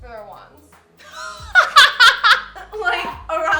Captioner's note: laughing